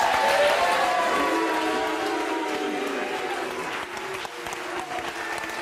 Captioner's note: audience cheering and booing